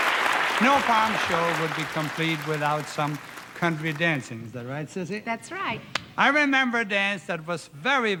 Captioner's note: applause